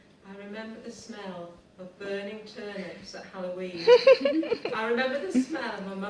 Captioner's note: participants laughing